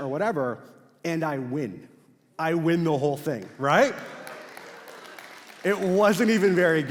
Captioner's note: crowd claps